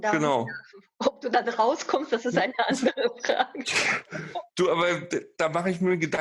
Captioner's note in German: lacht